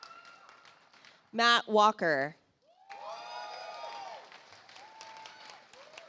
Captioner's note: audience applauds